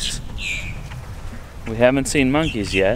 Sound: birds chirping

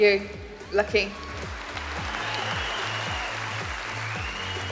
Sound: cheering

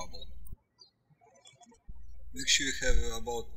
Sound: birds chirping

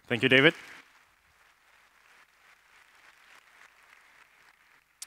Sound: applause

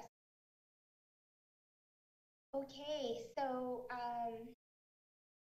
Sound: speaks Spanish

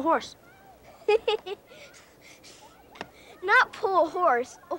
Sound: Olaf laughing

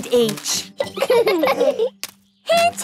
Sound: laughing

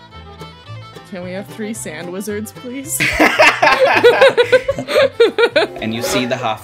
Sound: laughter

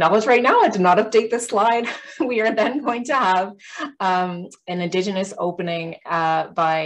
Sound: chuckles

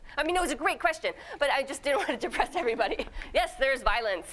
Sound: laughing

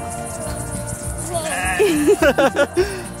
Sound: upbeat music; sheep bleats; laugh

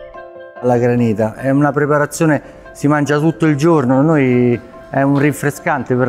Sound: bright music; speaking in foreign language

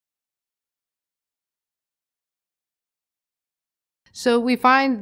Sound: silence

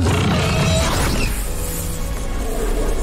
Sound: screeching; rustling; roaring

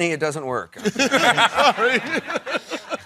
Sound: laughter

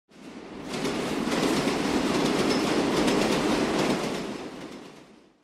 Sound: sound of subway running on tracks

